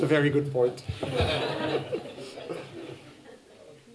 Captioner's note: laughter